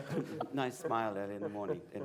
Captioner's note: laughter